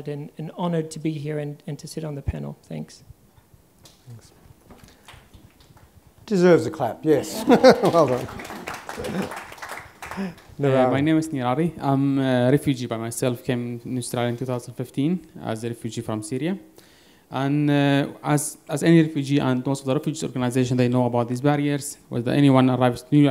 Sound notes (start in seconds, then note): 7.6 applause